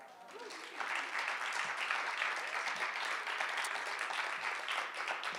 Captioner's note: audience applauding